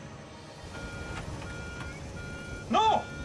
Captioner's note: controls beeping